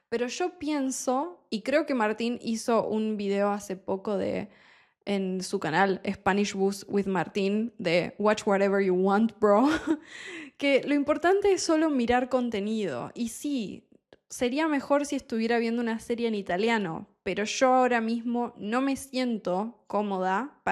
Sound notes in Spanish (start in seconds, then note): 9.6 risas